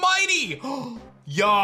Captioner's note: gasps